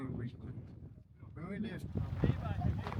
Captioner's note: people chattering